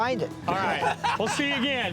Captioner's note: laughs